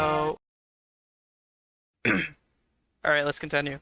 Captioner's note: clears throat